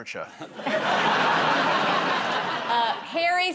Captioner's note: laughter